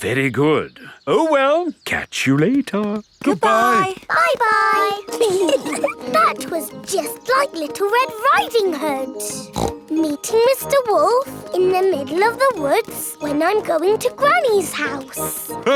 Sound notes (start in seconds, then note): 5.0 giggling; 9.3 snorts